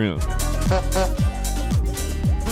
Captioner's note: clown horn honks; upbeat music